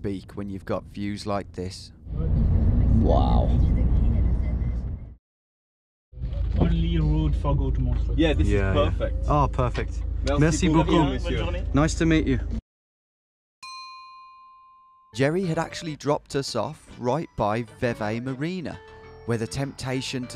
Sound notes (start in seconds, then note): 10.4 speaking in a foreign language; 13.7 pinging